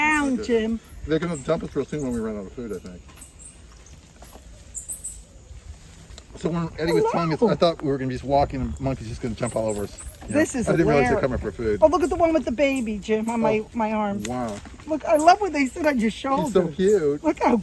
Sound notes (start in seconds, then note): 4.8 birds chirping